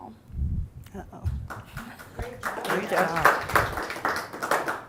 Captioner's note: applauding